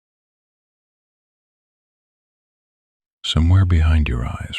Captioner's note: soft voice